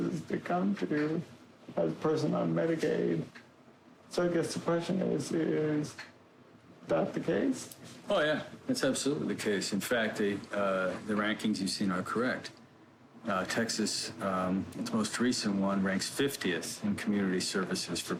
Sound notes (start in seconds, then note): none